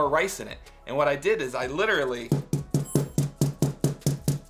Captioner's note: thuds